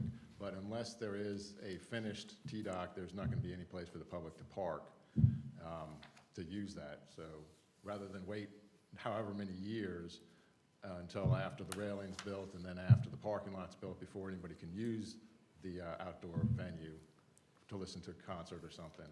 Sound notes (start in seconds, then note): none